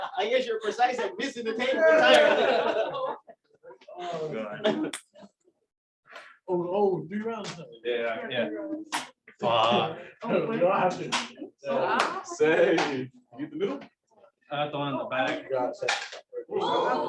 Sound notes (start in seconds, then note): 0.0 laughter; 1.7 laughter